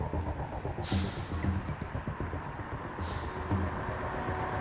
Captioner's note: engine rumbling